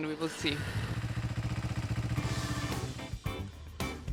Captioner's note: motorbike roaring; upbeat music